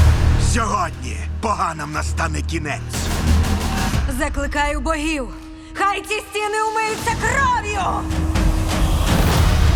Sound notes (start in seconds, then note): 3.9 voice echoing; 7.9 music building